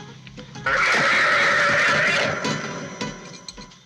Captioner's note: cow squealing